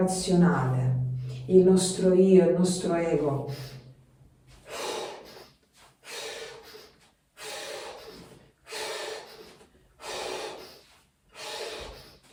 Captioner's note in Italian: sbuffare